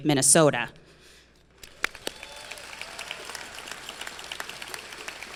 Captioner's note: crowd clapping and cheering